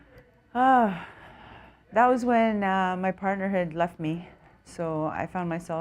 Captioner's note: sigh